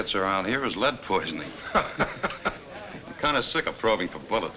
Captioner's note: Bill chuckles